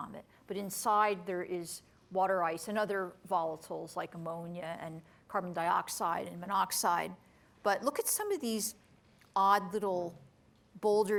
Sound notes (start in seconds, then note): none